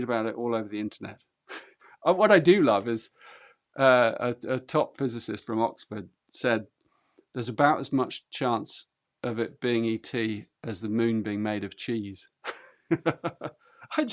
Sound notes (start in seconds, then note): 1.5 chuckles; 12.9 laughs